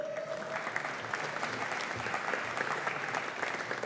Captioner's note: audience applauding